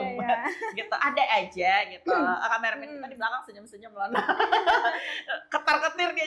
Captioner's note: laughs; laughs